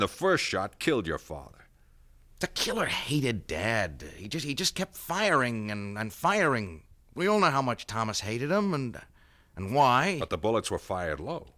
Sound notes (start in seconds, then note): none